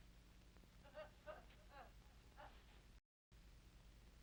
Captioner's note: strange laughter